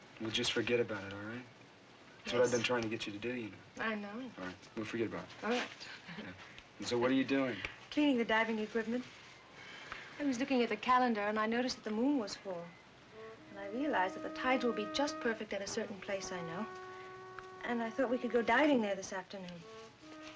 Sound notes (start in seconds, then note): 6.3 chuckles; 13.1 ominous music